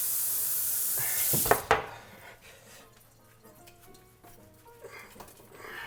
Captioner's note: breathes heavily